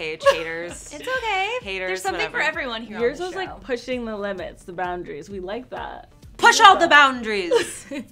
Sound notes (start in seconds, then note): 0.1 laughs; 7.4 laughs